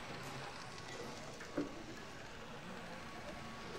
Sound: customers laughing and chatting

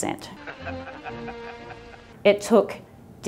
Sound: laughs capitalistically

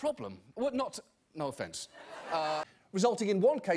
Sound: audience laughter

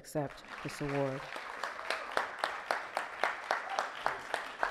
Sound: audience clapping

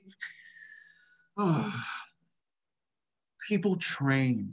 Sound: sighing

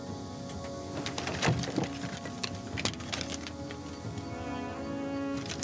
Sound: scrolls rattling

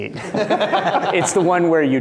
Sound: laughter

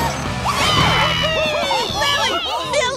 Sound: cheering

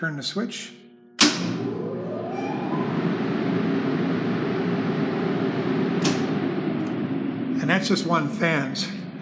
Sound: sound of fan blowing

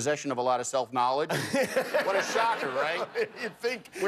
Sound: laughter

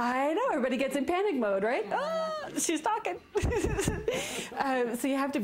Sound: laughs

